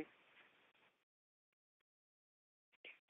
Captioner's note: silence